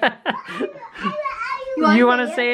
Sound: baby talk

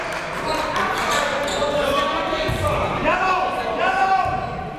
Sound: coaches yelling

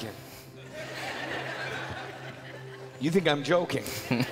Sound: crowd laughing

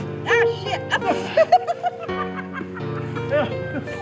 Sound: laughing

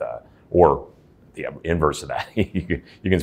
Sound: laughs

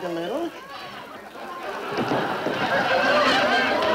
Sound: audience laughing

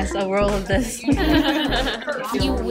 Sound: laughter

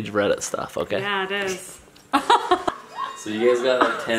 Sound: laughing

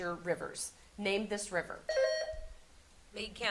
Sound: buzzer sounding

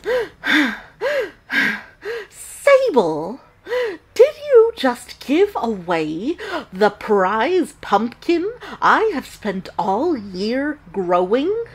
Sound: heavy breathing

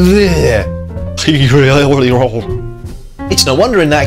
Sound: shudder

